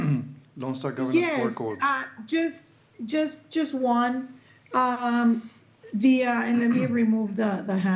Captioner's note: clears throat